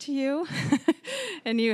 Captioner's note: laughing